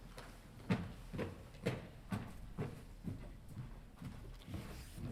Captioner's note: footsteps marching